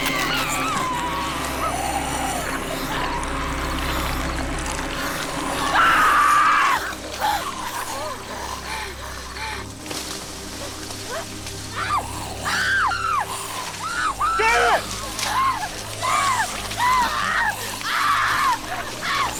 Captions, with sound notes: (Kathleen screams) (Janice screaming) - Janice! - Stop!